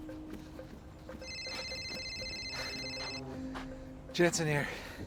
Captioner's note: phone rings